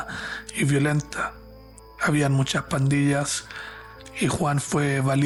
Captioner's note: narrator speaking Spanish